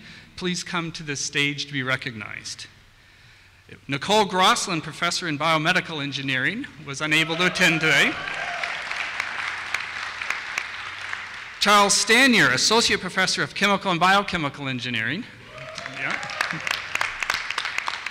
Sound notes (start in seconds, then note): 7.3 applause; 15.5 applause